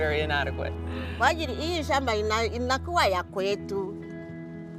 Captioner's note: speaking in foreign language